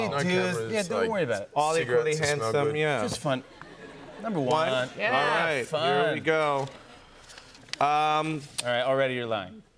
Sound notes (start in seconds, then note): 3.4 laughter